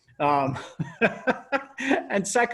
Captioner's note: laughs